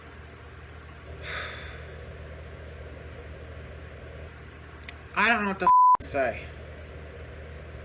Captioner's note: sighs